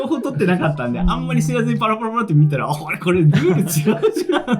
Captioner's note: laughs